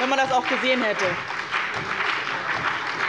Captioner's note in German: Beifall bei dem BÜNDNIS 90/DIE GRÜNEN, der CDU, der SPD und der FDP